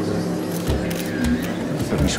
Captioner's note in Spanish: Clic de la cámara